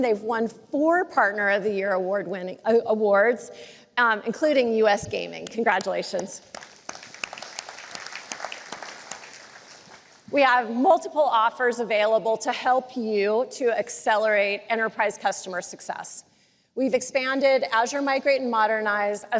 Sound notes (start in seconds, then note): 6.2 applause